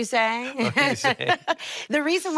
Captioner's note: both laughing